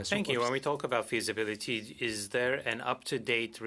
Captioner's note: speaking French